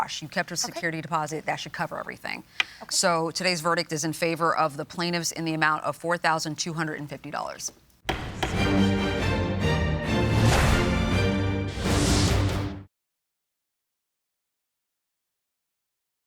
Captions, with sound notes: You kept your security deposit, that should cover everything. So today's verdict is in favor of the plaintiffs in the amount of $4,250. [gavel pounds] - Thank you.